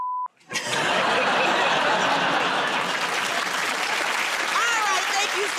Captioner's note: laughter